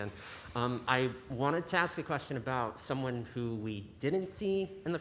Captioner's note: none